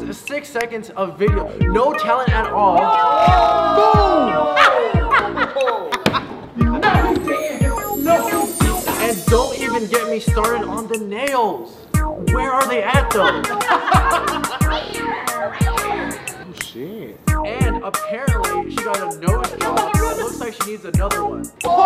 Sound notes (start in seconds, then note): 2.7 jury oohing; 4.3 glozell & others laughing; 13.1 jury laughing; 14.6 glozell meowing sounds; 21.6 jury oohing & laughing